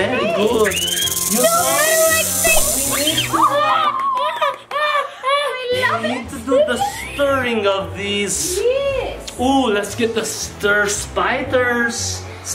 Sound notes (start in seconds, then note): 0.5 snake hissing; 1.2 child screaming